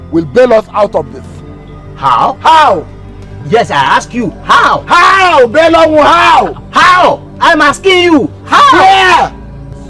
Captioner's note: screaming